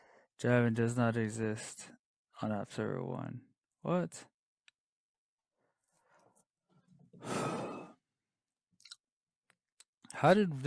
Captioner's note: sighs